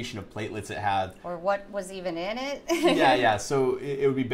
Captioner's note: laughs